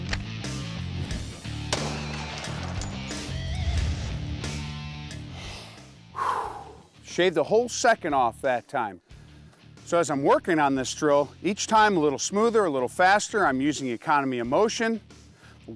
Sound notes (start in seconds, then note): 5.2 deeply inhales and exhales